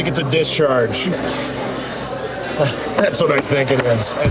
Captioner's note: chatter